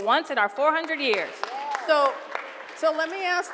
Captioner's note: cheering and applause